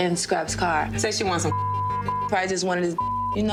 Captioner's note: beep